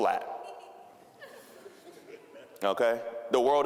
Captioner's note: audience laughing